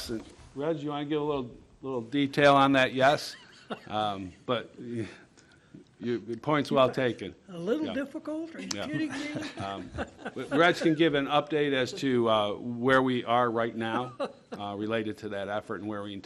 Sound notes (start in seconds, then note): 8.7 laughter